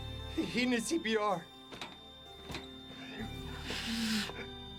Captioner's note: monitor emits continuous tone; crying